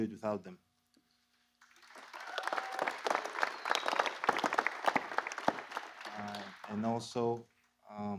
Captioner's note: applause